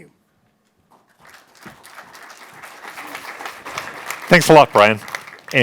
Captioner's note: applause